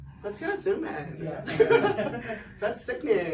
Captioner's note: laughs